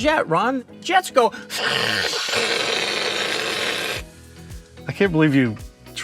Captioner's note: imitates jet engine